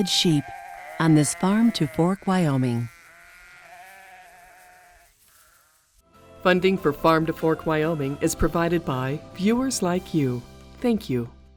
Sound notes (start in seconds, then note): 0.0 sheep bleating